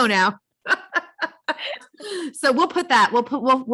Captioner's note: both laugh